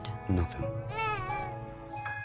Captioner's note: crying